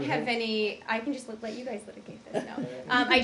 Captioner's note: laughter